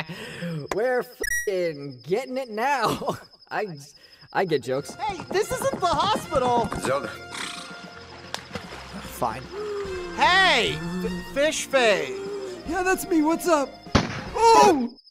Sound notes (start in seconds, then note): 0.0 laughs nervously; 0.2 deep breath, clap; 2.8 laughs; 7.1 huffs out; 13.9 gun shot